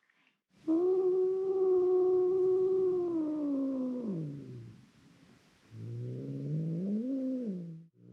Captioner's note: growling